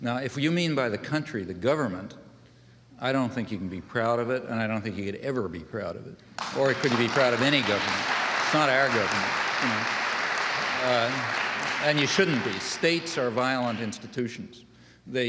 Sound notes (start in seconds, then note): 10.4 audience applauding